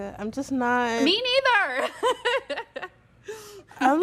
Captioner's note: laughter